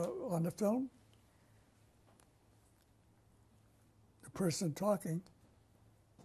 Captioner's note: pauses for 3 seconds